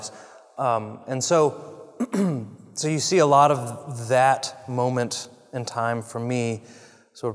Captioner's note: cough